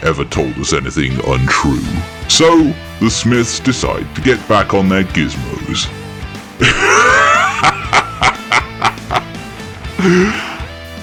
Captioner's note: descent into laughter